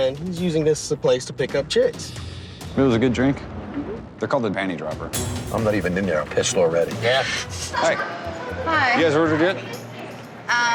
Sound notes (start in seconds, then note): 7.6 women laughing